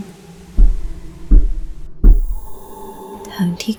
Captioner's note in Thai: เสียงเคาะ